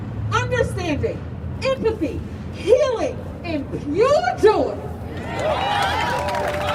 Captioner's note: crowd cheering